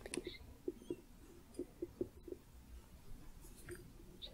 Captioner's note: gentle tapping, jingling